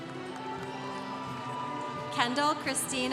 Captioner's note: congregation cheering